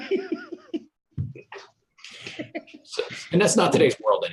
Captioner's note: laughing